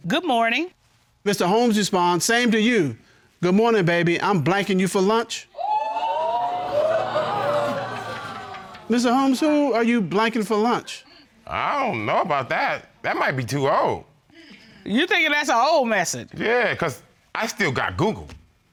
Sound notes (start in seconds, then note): 5.5 audience exclaiming